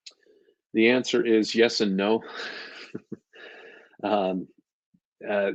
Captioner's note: chuckles